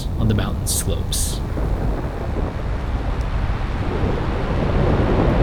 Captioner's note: mudflow rumbling